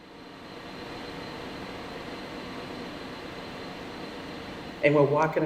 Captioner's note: ambient hum, distant machinery sounds